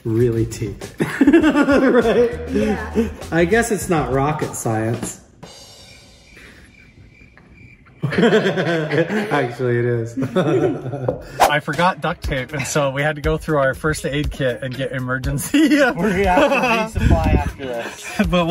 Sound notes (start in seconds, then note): 0.0 laughing; 5.4 cricket noises; 7.8 both laughing; 15.4 laughing